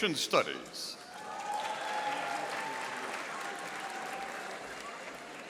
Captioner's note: audience applauding